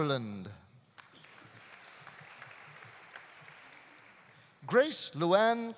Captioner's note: audience applauding